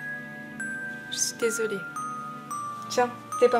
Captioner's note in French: L'infirmière, off